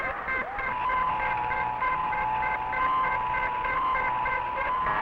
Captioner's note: electronic beeping continues